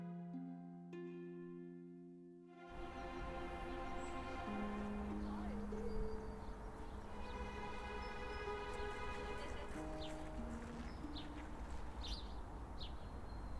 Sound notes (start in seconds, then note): 3.0 birds chirping; 9.1 group laughing